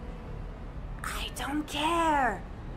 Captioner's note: whisper